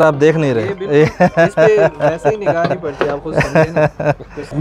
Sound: laughung

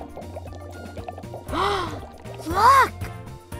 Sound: gasps

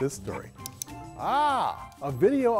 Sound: cat clicks

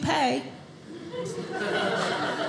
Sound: audience laughing

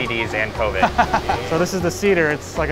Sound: laughing

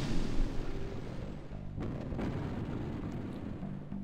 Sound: explosions boom

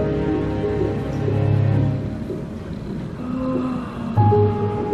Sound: break in music, sound of fetal heart rate slows. Deep breath/Moan; piano music

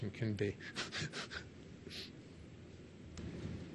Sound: he laughs

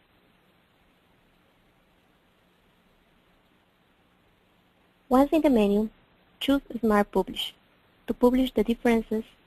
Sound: pause

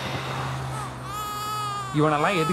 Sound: baby cries

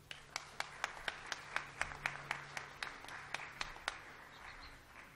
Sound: applause

